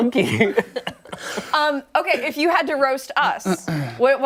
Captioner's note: laughter